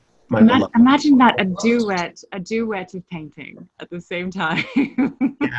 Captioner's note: laughs